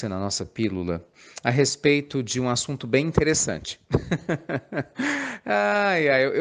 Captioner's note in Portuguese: Risos